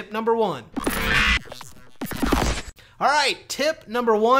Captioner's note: zapping